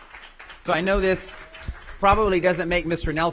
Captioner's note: applause